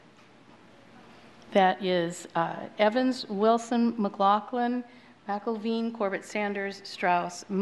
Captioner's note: counting